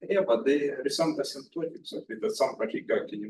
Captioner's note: speaks faintly